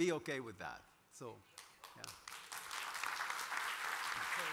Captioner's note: applause